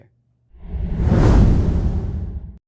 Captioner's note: air whooshing